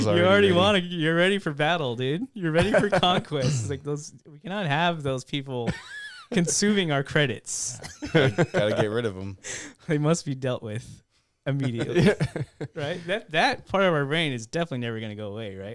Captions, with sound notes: - You're already ready for battle, dude. You're ready for conquest. We cannot have those people consuming our credits. (laughing) - Gotta get rid of them. - They must be dealt with immediately. Right? That part of our reign is definitely never going to go away,